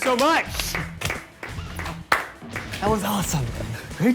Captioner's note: scattered clapping